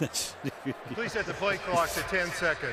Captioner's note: laughter